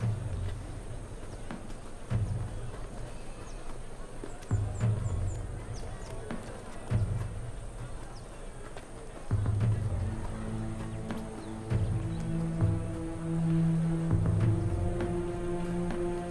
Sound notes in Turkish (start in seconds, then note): 2.6 Kalabalığın gürültüsü